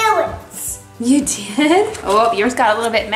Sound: chuckles

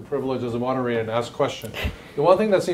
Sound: laughs

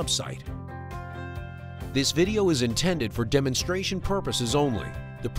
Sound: pre-recorded voiceover

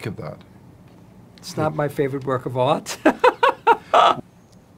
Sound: laughing

